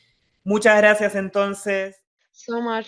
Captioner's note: speaking in foreign language